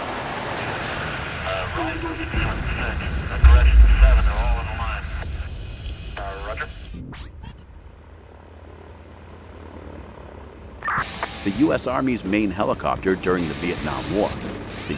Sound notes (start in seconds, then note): 0.2 suspenseful music; 7.7 helicopter engine roaring